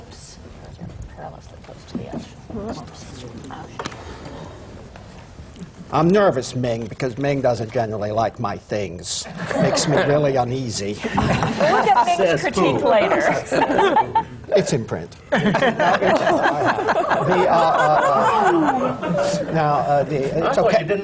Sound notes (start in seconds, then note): 11.0 laughter; 15.3 laughter